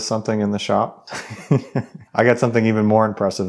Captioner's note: laughing